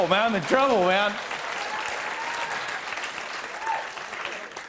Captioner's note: applause